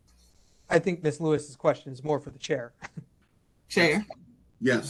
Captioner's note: laugh